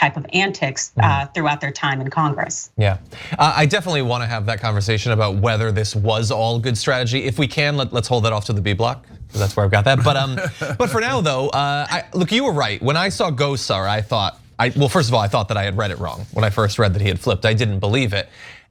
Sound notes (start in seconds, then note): 9.9 laugh